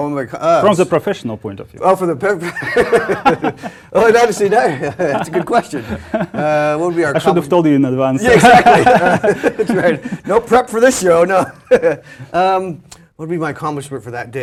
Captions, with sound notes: From the professional point of view. >> [LAUGH] >> I'll never seen that. That's a good question. >> I should have told you in advanced. >> Exactly. That's right. No prep for this show. No. What would be my accomplishment for